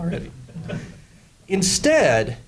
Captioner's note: laughing